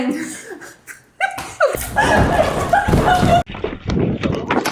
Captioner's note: laughing